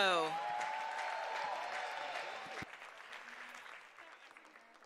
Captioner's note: applause